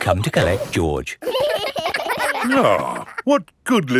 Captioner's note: giggling